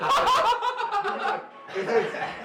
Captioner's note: histerical laughter